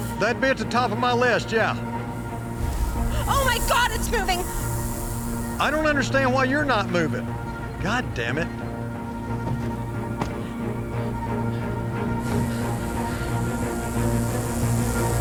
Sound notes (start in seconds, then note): 9.1 rattlesnake rattling; 9.1 suspenseful music